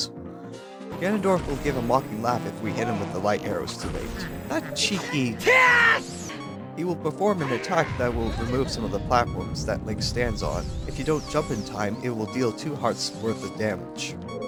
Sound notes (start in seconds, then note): 5.4 Link Scream